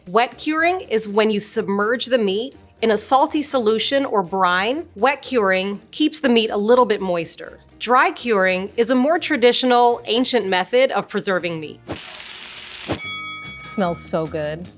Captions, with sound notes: Wet curing is when you submerge the meat in a salty solution or brine. Wet curing keeps the meat a little bit moister. Dry curing is a more traditional ancient method of preserving meat. [bacon sizzling] [bell rings] Smells so good.